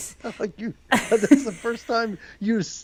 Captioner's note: laughs